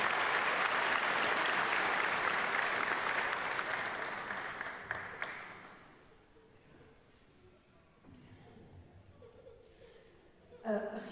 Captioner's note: applause